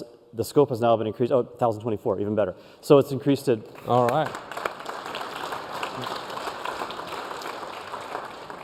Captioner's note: applause